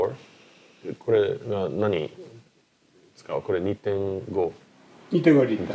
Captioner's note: speaking Japanese